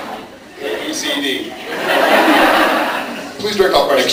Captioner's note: laughs